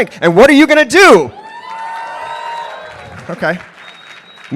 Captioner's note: applause